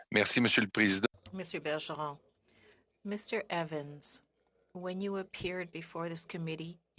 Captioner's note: speaking French